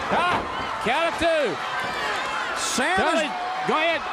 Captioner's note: crowd cheering